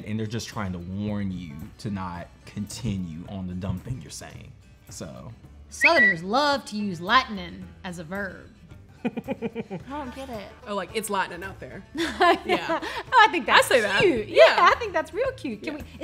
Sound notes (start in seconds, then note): 9.0 laughing; 12.3 laughing